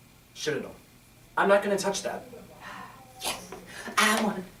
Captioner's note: Francis exhales in relief